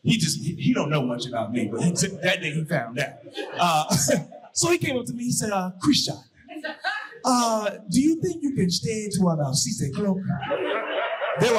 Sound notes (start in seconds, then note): 3.3 chuckles; 3.7 audience laughing; 6.1 imitating African accent